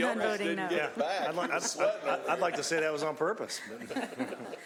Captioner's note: laughter